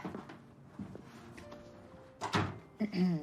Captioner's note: clearing throat; door closing